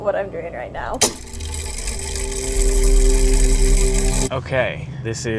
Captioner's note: mechanism whirring